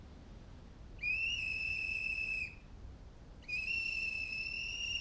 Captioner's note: whistle blows